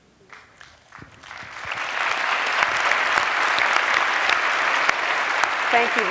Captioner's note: applause